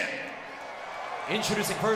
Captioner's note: crowd cheering